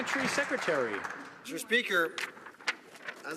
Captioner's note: some Applause